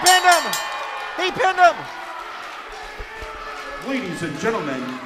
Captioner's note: bell rings; crowd booing